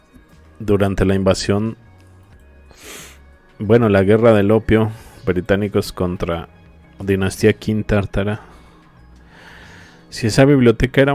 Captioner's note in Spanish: resoplido